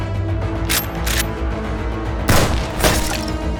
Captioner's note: dramatic music; gun cocking; gun firing